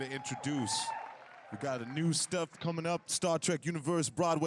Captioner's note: applause